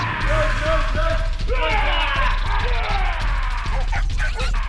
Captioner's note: drivers yelling